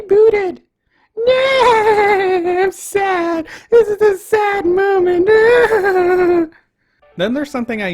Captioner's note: in an annoying mocking voice; wailing